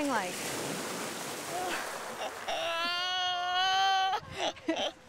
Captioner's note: laughter